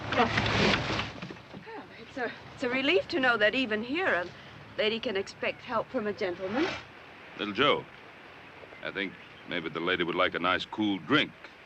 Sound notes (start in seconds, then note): none